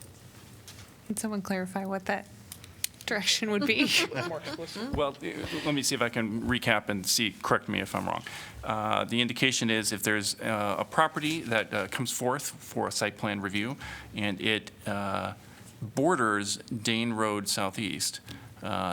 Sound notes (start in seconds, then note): 3.6 laughter